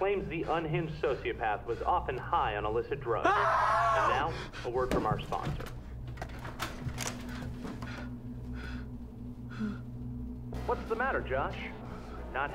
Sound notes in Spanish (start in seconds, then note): 3.2 Gritando; 7.0 Respirando profundamente